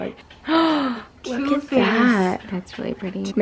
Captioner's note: gasp